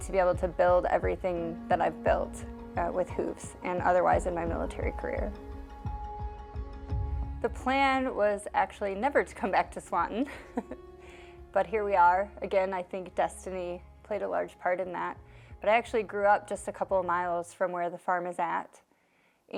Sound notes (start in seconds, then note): 5.3 calming music; 10.2 chuckles